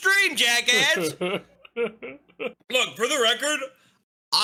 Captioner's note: laughs